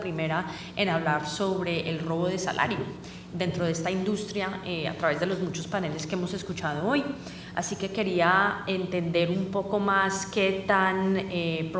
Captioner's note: speaking spanish